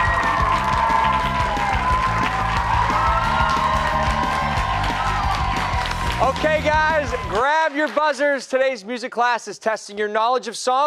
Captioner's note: cheers and applause